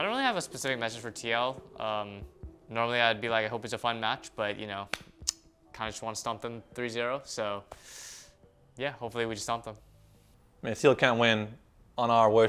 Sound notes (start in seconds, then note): 4.9 claps hands